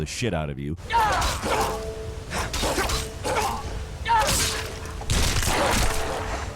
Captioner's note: character yelling; sword slashing